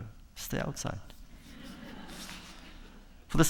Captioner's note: laughter